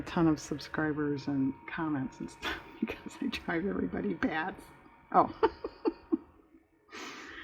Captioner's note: laughs